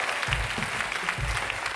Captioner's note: applause